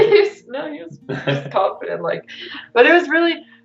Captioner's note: giggles